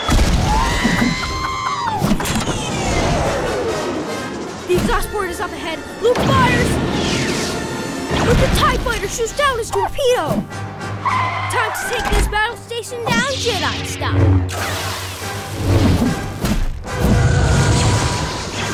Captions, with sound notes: [ARTOO SCREAMS] The exhaust port is up ahead. Luke fires. But the TIE Fighter shoots down his torpedo. [BRAKING SOUNDS] Time to take this battle station down, Jedi style. [SIZZLING]